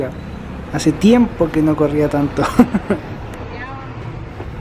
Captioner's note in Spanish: risas